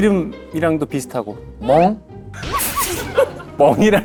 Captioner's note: barking out of nowhere